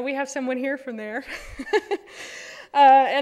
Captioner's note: laughter